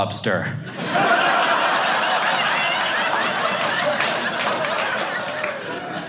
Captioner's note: audience laughing